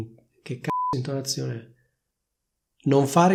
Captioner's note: beep